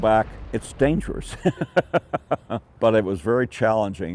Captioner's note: laughs